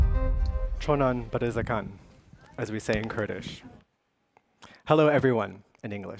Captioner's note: speaking kurdish